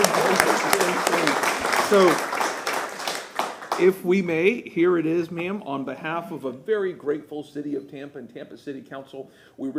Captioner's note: applause